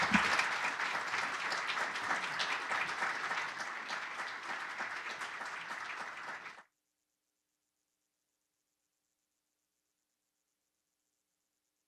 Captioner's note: applause